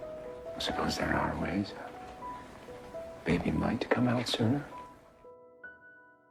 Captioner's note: voiceover